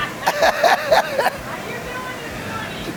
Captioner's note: laughs